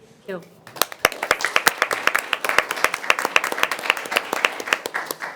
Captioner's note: everyone applauding